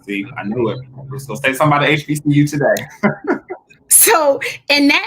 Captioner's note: laughs